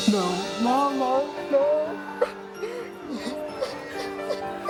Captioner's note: sobbing